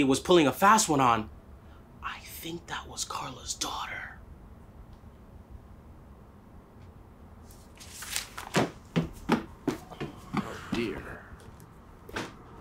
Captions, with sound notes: was pulling a fast one on, I think that was Carla's daughter. (footsteps thudding on the floor) - Oh dear.